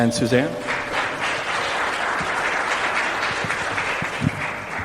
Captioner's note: applause